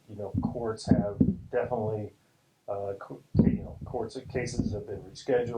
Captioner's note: loud thumping occurs